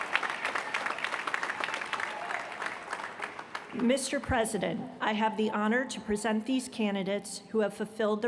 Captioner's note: applause